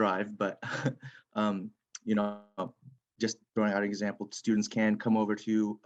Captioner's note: chuckles